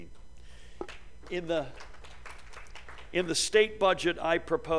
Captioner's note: applause